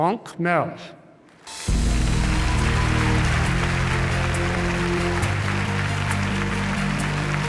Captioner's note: hopeful music; audience applauding